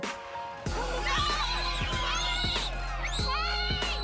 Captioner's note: children screaming